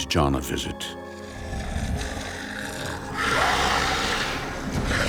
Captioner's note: growling and snarls